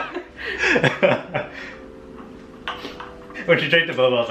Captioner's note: laughing